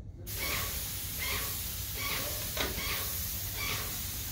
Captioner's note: sprayer spraying